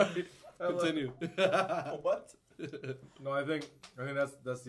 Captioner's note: laughs